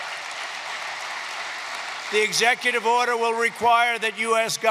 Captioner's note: applause